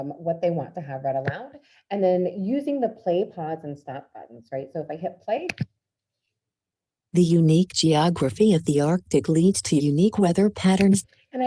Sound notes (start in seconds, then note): 7.2 automated Voice